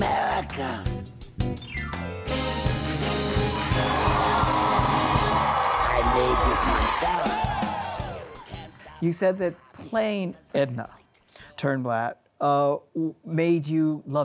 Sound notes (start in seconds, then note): 1.6 upbeat music; 4.6 audience cheering